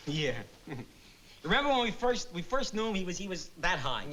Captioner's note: chuckles